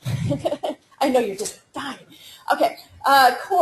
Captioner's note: laughter